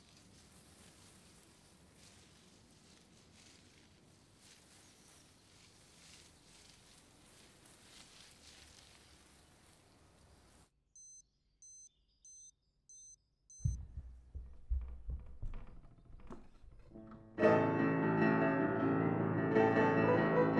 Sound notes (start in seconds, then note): 10.8 alarm beeping